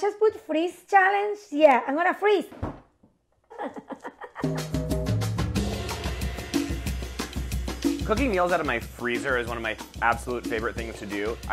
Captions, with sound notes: - Oh, I just put Freeze Challenge, yeah, I'm gonna freeze. [laughs] [upbeat music] - Cooking meals out of my freezer is one of my absolute favorite things to do.